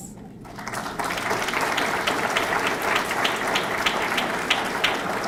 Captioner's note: audience clapping